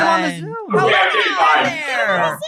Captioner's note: laughs